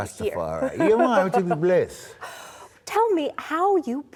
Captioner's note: in Jamaican Patois